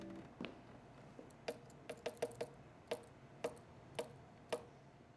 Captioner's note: finger taps